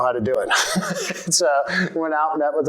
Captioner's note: laughter